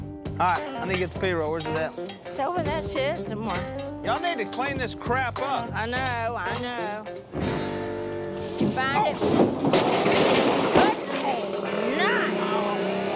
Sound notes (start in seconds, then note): 8.3 clattering; 12.3 growling